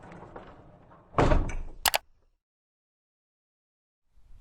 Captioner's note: mouse clicks